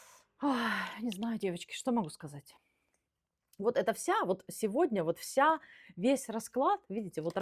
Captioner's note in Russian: вздыхает